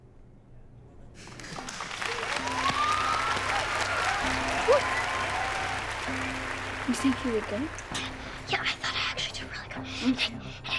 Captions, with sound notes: [applause and cheering] Yeah, I thought I actually did really good.